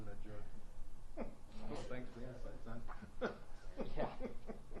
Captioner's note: laughs